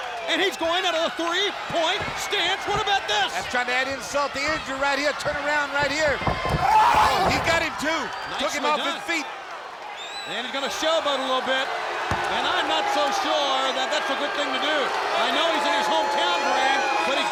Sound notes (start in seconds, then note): 0.0 crowd clamoring; 1.6 footsteps plodding; 6.4 wrestlers grunting; 7.9 body thudding; 11.9 crowd clamoring; 12.0 hands thudding